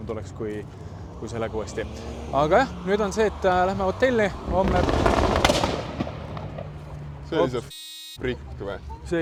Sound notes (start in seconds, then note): 4.4 pops & bangs & flames